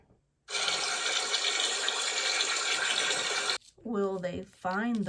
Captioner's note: water rushes